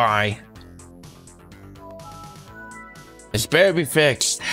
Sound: Windows Vista Startup sound

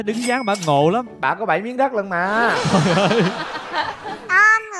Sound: laughing

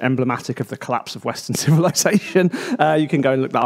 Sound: laughs

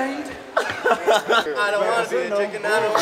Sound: laughing

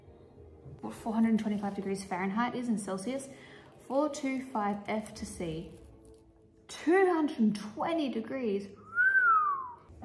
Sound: whistle

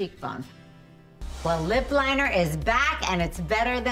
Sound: air whooshing

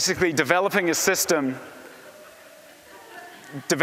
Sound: laughter

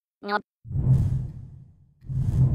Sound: whoosh

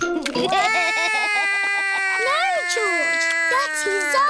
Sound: george laughs; cries

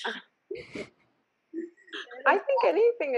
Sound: laughing

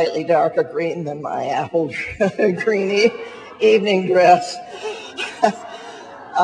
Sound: laughs

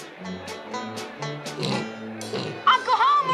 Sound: snort snort

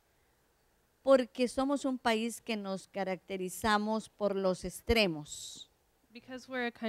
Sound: Spanish

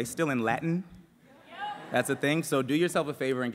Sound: crowd

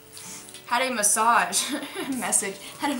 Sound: laughs

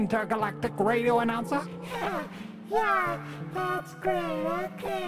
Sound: giggles nervously

